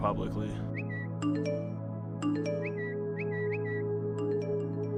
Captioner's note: whistles